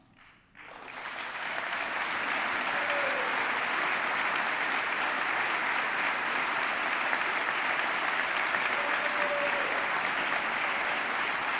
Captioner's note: applause